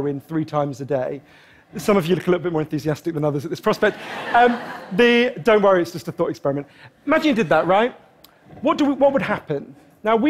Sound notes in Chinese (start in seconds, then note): 3.8 觀眾笑聲; 3.8 Laughter